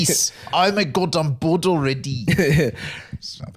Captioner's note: south African accent